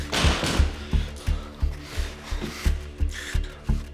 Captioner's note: door thuds